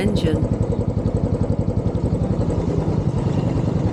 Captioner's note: motorbike engine